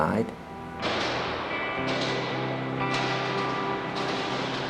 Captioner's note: doors slamming